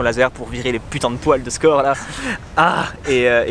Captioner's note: sigh